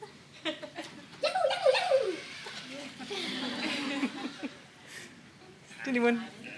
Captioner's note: everyone laughs; Nao warbles